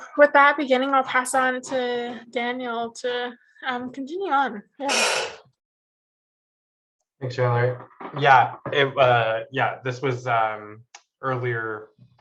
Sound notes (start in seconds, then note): 5.8 metal banging